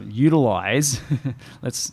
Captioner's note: laughs